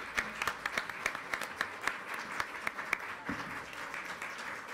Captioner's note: applause